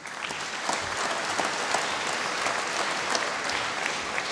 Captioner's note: applause